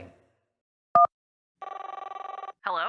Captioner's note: phone rings